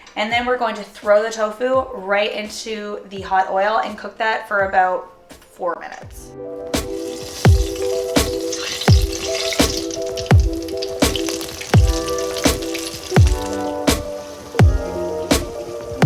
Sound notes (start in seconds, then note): 5.8 relaxed pop music; 6.9 oil bubbling